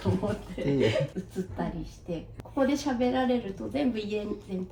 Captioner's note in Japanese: 笑い